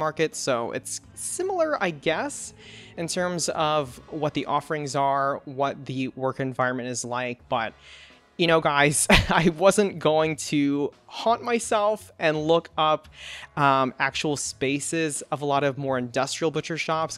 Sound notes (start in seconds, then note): 9.2 laughs